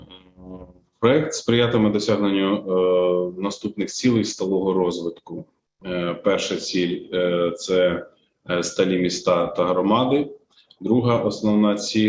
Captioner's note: foreign Language Spoken